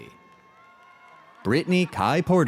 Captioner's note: audience cheers